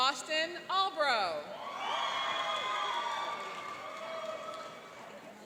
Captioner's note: cheering and applauding